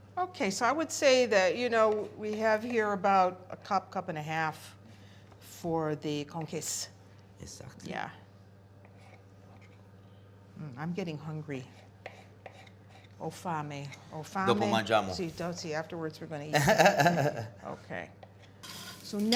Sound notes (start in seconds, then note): 5.6 non-english speech; 16.5 laughing